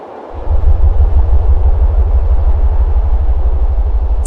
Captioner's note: aircraft rumbling